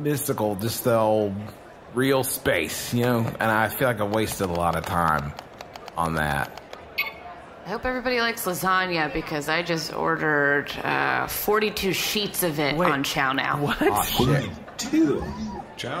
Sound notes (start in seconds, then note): 6.4 tapping sounds, Dar’s pad beeps